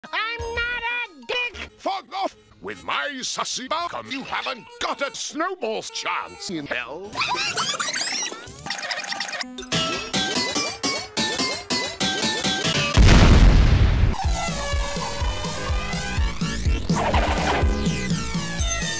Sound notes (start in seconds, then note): 10.2 DONK* sounds; 12.9 kaboooom